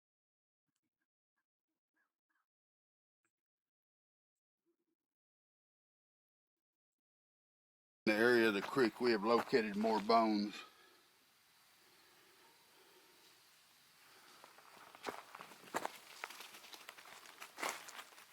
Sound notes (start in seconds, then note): 11.0 trees rustling; 13.9 breathing heavily; 14.2 footsteps pattering